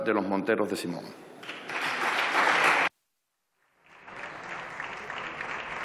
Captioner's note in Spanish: Aplausos